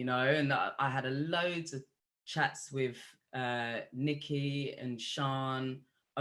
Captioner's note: none